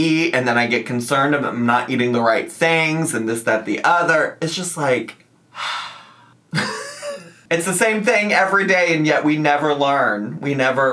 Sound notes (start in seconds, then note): 5.5 sighs